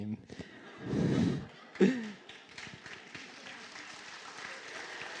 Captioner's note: laughter and applause